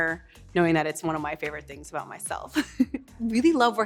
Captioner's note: chuckles